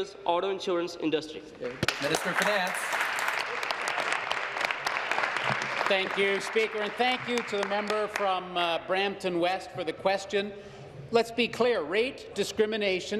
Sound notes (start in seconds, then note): 4.6 applause